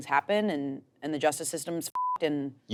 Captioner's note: beep